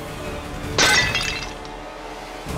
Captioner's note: flower pot breaks